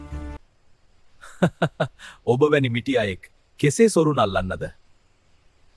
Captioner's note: laugh